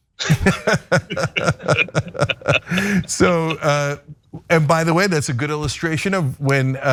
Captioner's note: laugh